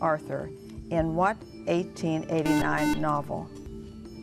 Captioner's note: buzzer